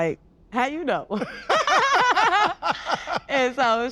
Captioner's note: all laugh